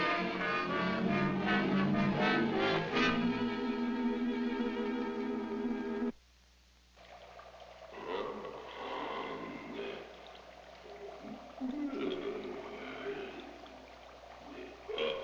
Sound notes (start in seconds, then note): 7.9 grunting; 10.4 liquid bubbling